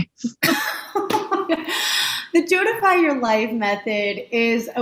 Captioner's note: laughs